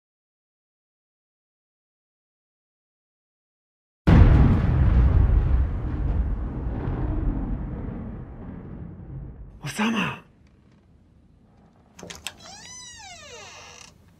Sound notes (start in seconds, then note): 4.0 thunder